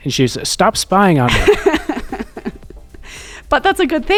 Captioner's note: laughs